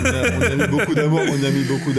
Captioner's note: laughs